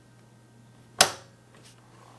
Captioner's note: clunk